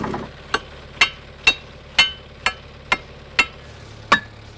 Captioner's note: metal clanks